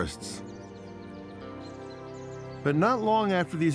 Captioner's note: birds chirping